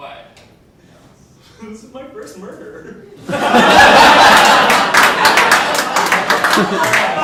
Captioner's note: audience laughing